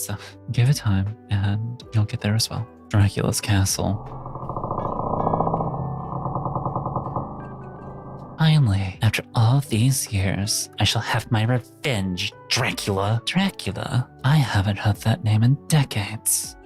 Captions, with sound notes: So give it time and you'll get there as well. Dracula's castle. (thunder rumbling) Finally, after all these years, I shall have my revenge, Dracula. Dracula, I haven't heard that name in decades.